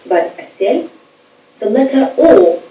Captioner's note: speaking foreign language